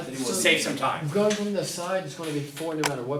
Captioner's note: voiceover